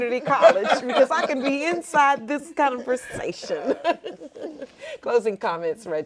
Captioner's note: laughing